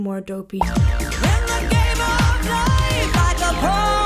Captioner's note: bubble popping